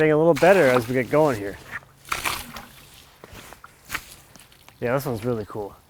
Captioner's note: water sloshes